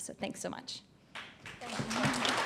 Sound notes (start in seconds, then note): 1.2 applause